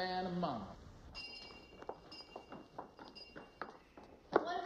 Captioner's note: bell ringing